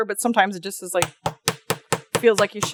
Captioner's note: light hammering